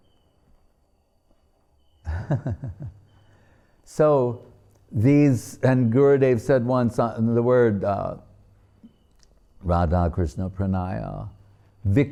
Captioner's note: chuckling